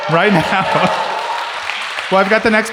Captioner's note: audience cheers